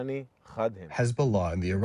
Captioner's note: through translator